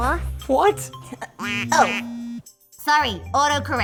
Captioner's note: phone buzzing